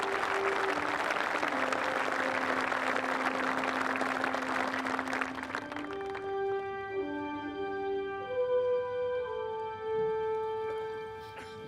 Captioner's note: applause